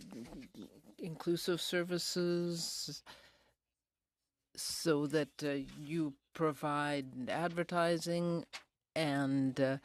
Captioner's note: speaking in french